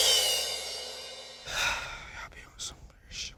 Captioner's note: drum roll plays; sighs; whispering